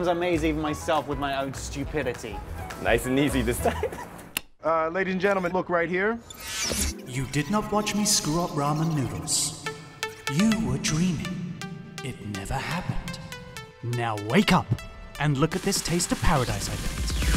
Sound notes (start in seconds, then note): 3.6 laughing; 4.6 movie sfx; 9.3 ambient music